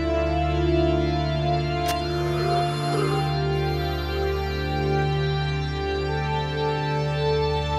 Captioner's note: knife stabbing; woman gasping